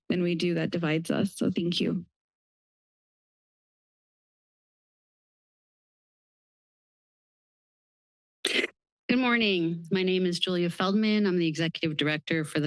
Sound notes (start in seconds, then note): 2.5 silence; 8.5 microphone noise